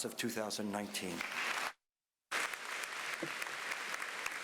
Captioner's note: applause